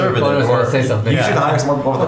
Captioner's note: laughing